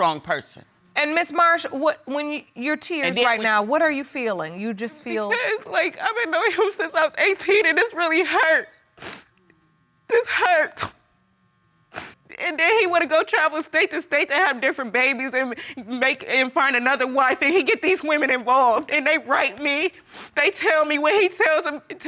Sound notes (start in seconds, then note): 11.9 sniffles